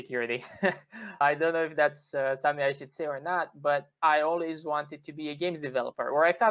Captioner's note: laughter